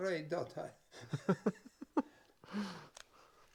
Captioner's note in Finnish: naurua